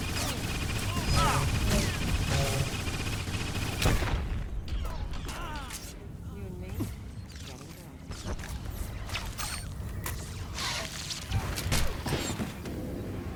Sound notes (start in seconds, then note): 2.7 gunfire